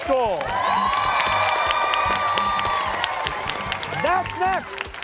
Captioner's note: cheers and applause